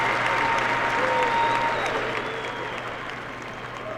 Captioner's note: cheering and applause